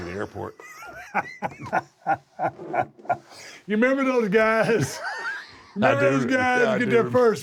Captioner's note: laugh